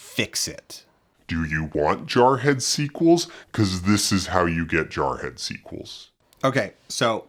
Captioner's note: slo-mo voice